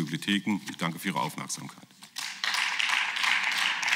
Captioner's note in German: Beifall